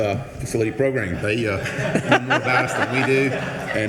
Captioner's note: attendees laughing